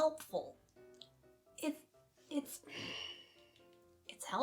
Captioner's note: tiny growl